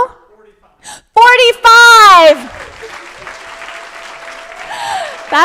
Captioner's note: crowd applauding